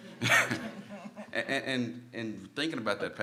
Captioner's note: panel laughs